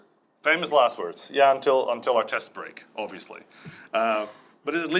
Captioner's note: laughs